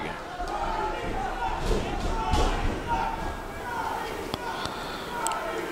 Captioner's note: crowd cheering and chanting